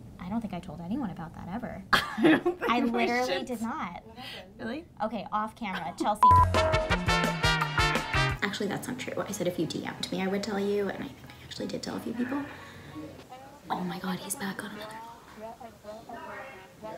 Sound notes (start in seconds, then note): 2.1 laughs; 6.2 beep; 6.2 upbeat music